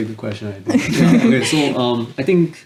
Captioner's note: laughs